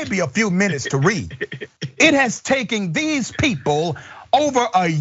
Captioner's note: laugh